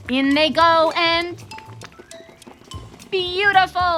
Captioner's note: ticking Clock